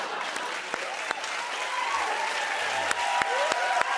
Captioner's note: cheers and applause